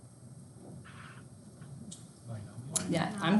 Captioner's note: student mumbling